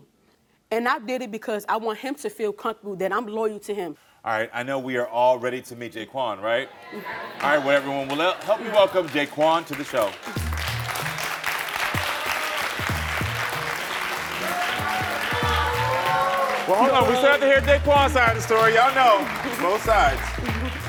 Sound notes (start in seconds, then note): 10.5 audience applauding; 15.8 audience booing